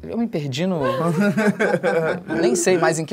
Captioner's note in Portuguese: risadas